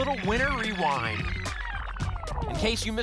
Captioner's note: tape rewind sound